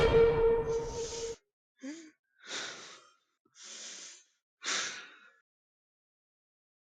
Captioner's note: gasping and holding back tears